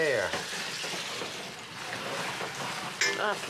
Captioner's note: sizzling